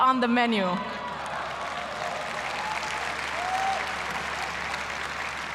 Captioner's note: applause